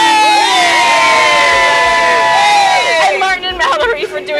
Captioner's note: cheering